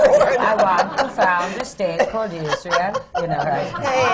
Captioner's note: does the scandinavian accent